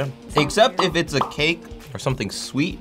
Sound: bubbles popping

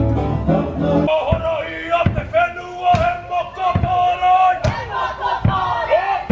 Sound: yelling in foreign language

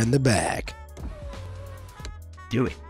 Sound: window whirs

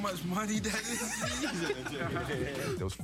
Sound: laughing

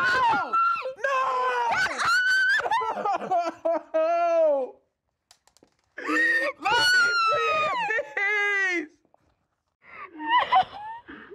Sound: crying

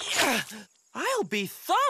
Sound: grunting

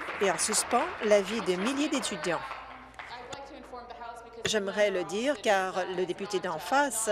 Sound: applause

